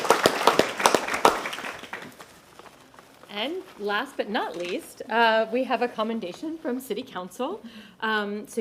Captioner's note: applause